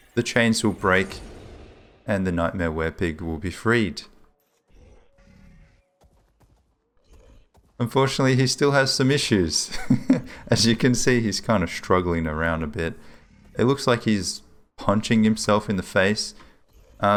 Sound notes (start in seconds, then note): 9.7 laughs